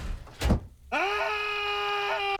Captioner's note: screaming